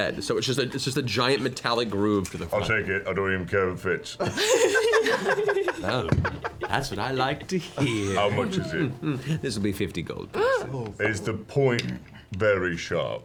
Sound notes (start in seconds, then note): 4.2 laugh; 10.3 gasps